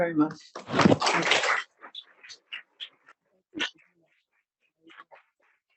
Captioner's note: audience applauding